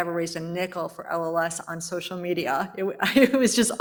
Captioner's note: laughs